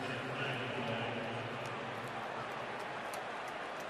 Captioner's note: pa announcement